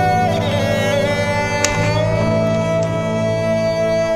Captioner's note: Door opens